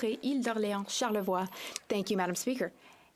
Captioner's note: speaking French